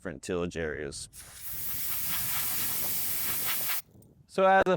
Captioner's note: air hissing